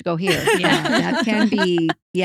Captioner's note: laughing